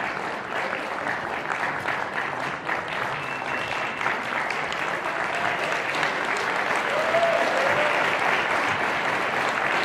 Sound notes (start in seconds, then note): 5.0 audience cheering